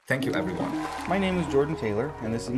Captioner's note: cheers, applause